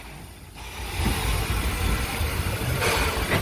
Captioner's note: puffing Engine noises